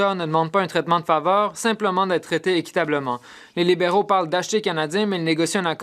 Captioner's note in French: voix de l'interprète